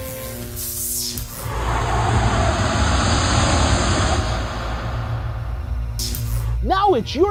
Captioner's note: sound Effects